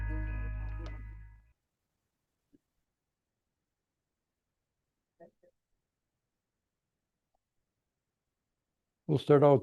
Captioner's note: pause